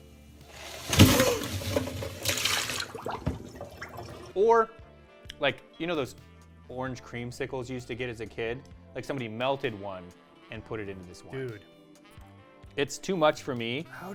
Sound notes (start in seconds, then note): 0.8 lady gasping; 2.2 fluid bubbling